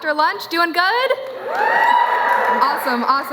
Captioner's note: cheering